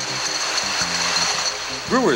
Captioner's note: bottles rattle